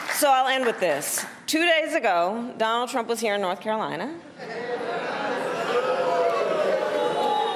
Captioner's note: applause